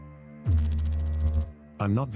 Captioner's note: electrical noise